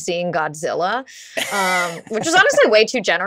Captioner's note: laughs